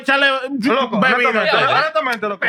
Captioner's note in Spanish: Hablando en idioma extranjero